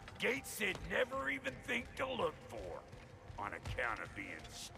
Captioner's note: none